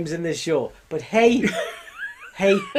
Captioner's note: laughing